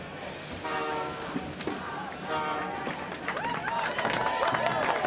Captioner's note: train horn blares; passengers cheer and clap